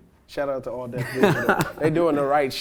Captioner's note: laughs